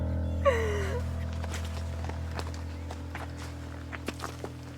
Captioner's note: steps on the path